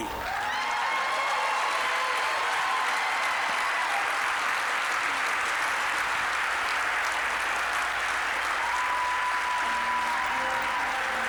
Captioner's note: applause, cheering